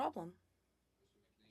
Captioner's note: speaking French